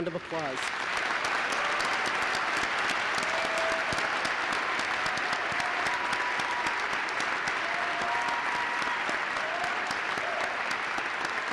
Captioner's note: applause